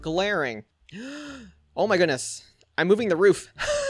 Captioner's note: gasps; chuckles